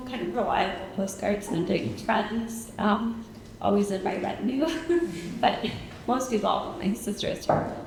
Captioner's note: chuckles